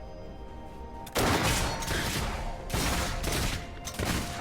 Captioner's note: gunshot booming